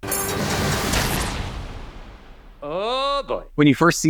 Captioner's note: bear exploding